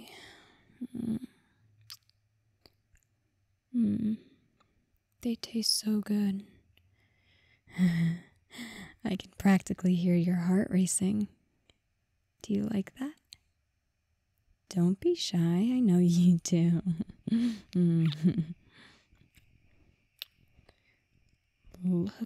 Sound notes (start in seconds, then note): 1.8 kiss; 17.7 kiss